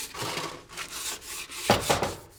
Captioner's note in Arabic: يطرق الباب